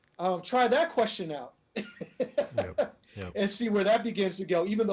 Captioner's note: laughing